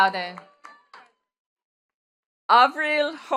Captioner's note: attendees clapping